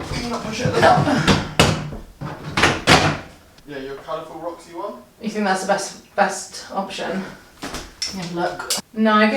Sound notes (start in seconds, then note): 0.0 case rattling; 0.1 grunts